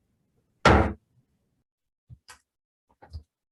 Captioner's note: gavel bangs